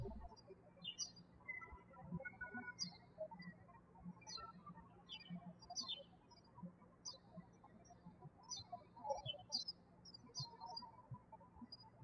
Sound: birds chirping

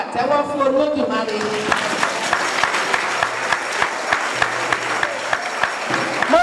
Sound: round of applause

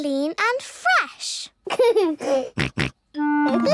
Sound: giggles, snorts

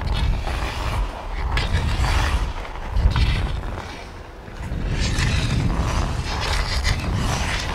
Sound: hockey stick scraping; skates swooshing

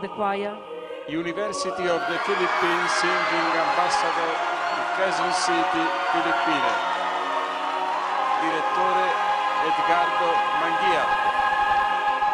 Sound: cries in victory and in triumph

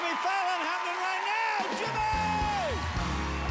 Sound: cheers and applause

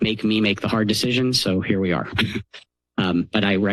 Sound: chuckles

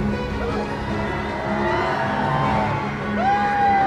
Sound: audience cheers

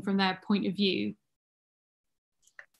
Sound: none

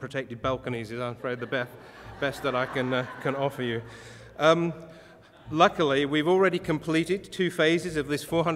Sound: audience laughter

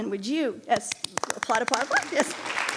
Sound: audience applauding

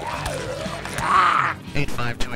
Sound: bones crunching; zombie growls

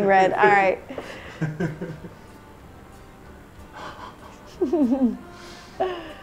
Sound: laughing

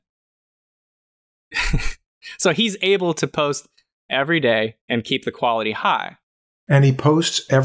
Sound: chuckles

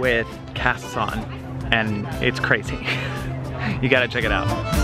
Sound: laughs

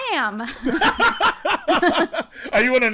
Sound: laughter

